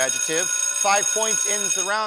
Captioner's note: alarm rings